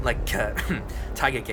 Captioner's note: cough